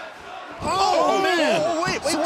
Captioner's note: crowd cheering